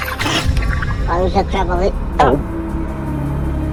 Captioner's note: gulp